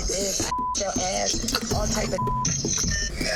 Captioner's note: beep